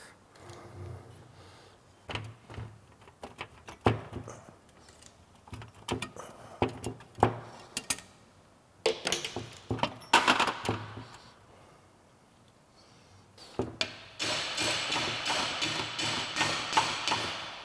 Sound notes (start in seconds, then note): 13.8 banging